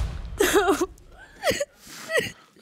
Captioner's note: sobs